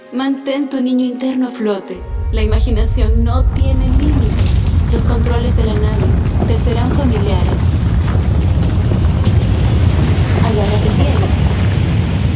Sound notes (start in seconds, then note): 7.4 crescent rumbling sound